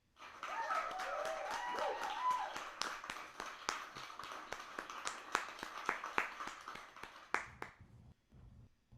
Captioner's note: applause and cheers